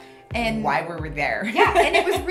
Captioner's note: laughs